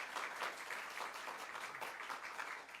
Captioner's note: applause